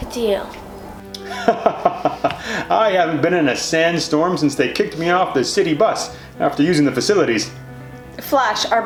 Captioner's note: laughing